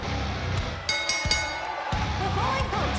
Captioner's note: cheers & applause; bell